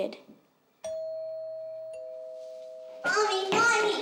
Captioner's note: doorbell ringing